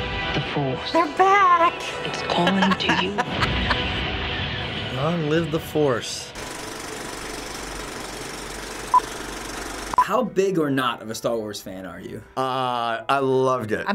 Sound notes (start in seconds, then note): 2.0 laughs; 6.4 movie reel clicks